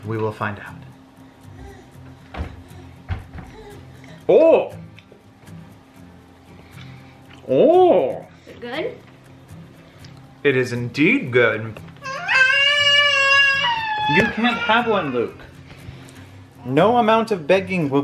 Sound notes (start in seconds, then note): 12.1 screams